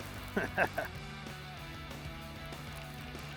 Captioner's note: laughing